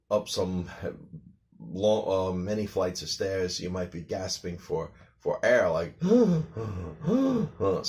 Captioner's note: deep gasping sounds